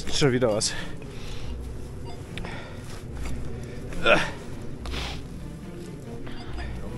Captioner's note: squeaks